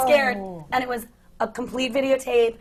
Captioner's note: gasps